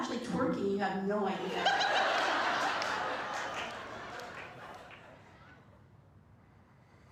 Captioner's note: laughter